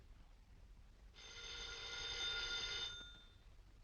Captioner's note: phone ringing